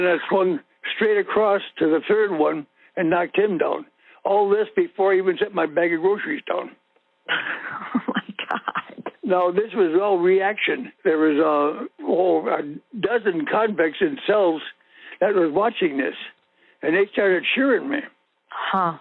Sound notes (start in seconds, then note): 7.3 laughing; 8.0 over the Phone; 18.8 over the Phone